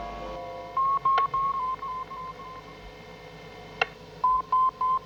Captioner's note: painel de instrumentos apitando